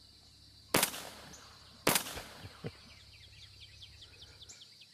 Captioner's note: gun firing